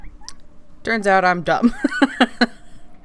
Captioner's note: laughs